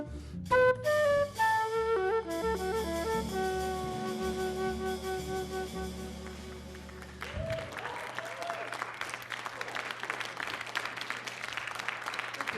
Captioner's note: applause